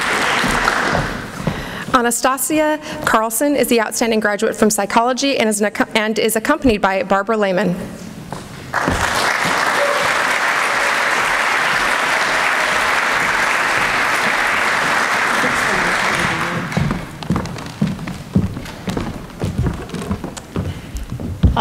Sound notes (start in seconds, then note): 8.7 applause